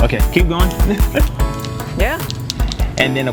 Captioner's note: chuckles